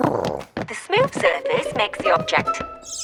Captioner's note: big Lizard purrs